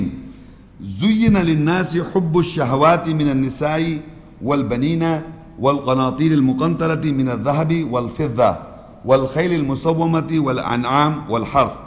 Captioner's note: Arabic